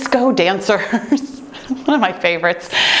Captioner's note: laughing